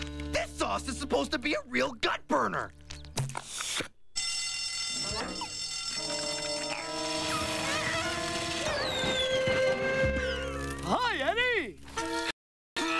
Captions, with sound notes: THIS SAUCE IS SUPPOSED TO BE A REAL GUT BURNER. [BELL RINGING] [STEAM WHISTLE BLOWS] HI, EDDY! HUH, DUH...